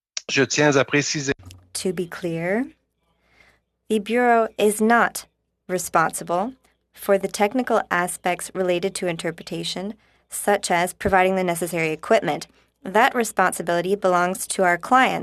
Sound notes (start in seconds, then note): 6.0 speaking in french; 6.8 speaking in alternate language